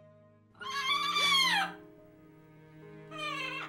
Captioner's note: Vincent squawks